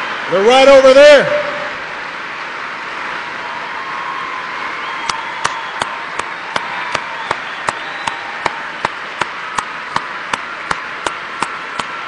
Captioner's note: applause